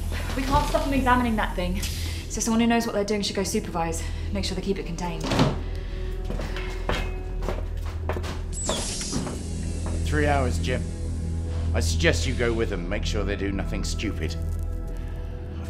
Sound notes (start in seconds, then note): 8.6 door hissing